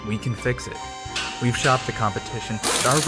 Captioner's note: mechanical whirring